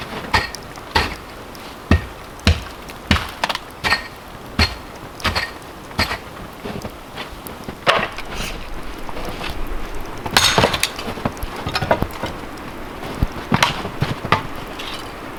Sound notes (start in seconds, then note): 0.0 snow scraping; 10.6 wood cracking